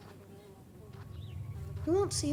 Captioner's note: flies buzzing